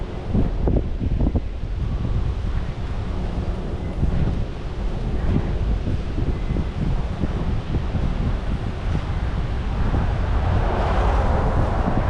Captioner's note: wind blowing